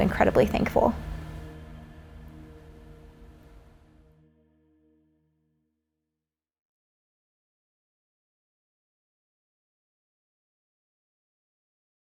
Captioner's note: silence